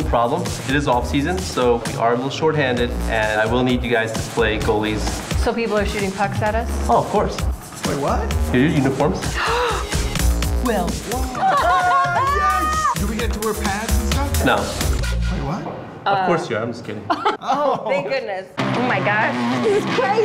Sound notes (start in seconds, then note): 9.3 gasp; 11.4 cheering